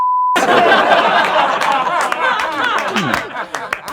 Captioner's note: laughing